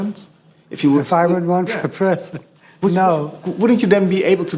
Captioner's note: chuckles